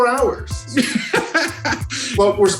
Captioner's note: laughing